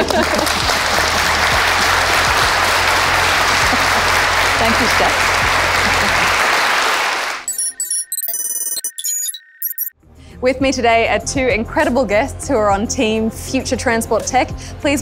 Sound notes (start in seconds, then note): 0.0 applause; 2.5 laughs; 7.4 electronic beeping